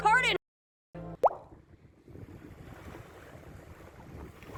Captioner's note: pop sound effect